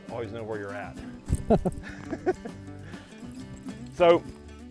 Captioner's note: laughs